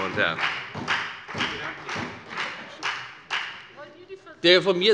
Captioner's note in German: Beifall bei der FDP - Zuruf von der Regierungsbank